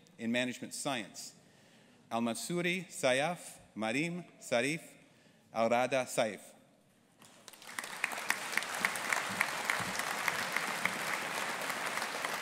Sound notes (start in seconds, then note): 7.2 audience applauding